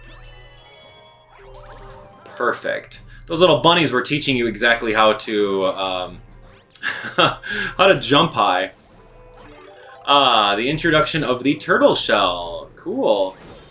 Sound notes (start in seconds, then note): 0.2 game music; 6.7 laughs